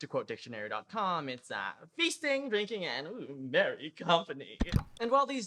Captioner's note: click